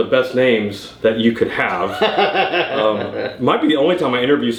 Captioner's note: laughing